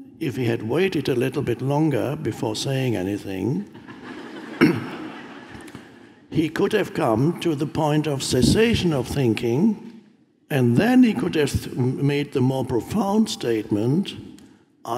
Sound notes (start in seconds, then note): 3.7 audience laughing; 4.6 throat clearing